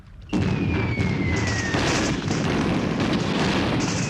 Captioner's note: weapons booming